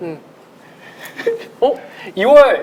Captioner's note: laughing